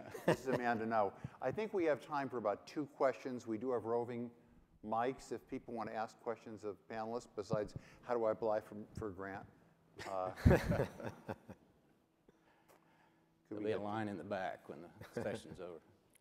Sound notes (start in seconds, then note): 10.0 laughing